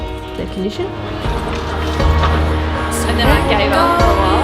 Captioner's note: trolley rattling